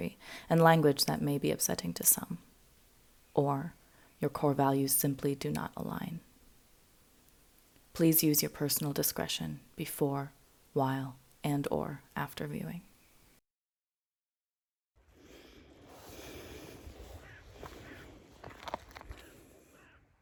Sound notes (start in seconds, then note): 16.8 bird caws